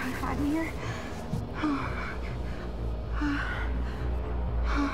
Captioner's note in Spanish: Respirando profundamente